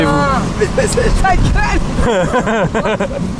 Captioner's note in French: rires